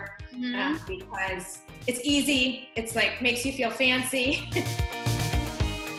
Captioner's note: laughs; upbeat music